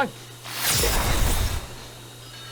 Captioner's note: zwooosh